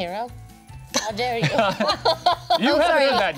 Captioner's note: group laughing